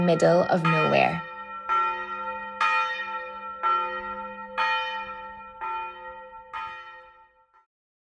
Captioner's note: church bells ringing